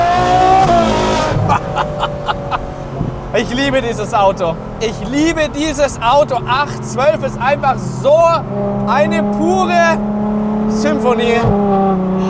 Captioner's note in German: gelächter